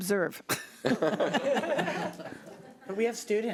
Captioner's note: laughing